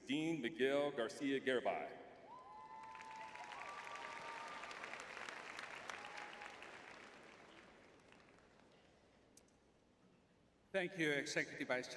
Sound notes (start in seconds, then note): 2.2 cheering